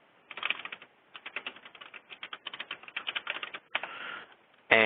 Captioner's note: typing